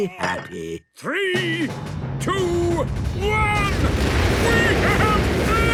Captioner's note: rockets igniting